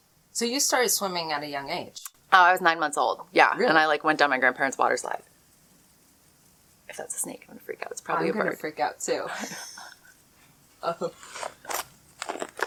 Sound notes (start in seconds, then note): 9.3 both LAUGH